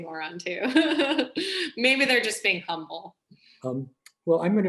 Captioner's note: laughs